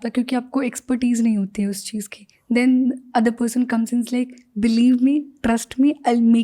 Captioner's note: speaks in Hindi